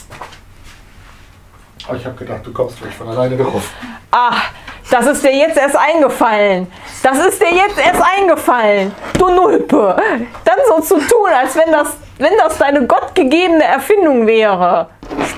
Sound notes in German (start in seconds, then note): 1.7 Aus dem Off